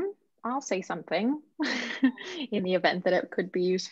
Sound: laughs

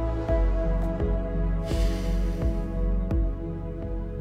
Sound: sigh

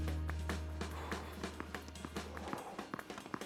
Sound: Marshall sighing; ball bouncing

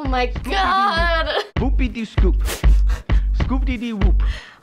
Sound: chuckling

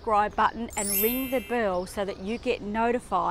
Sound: whimsical ringing

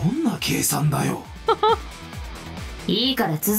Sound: chuckles

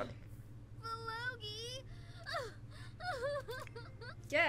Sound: vivi sobbing

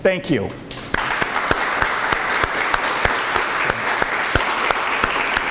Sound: audience applauds

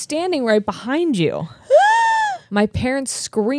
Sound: gasps loudly

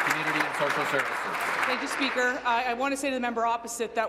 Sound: applause

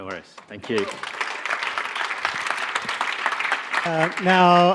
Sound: audience applauding

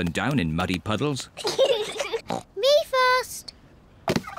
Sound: snorts

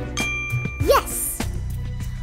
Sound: light rings

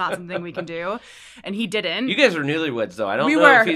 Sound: laugh

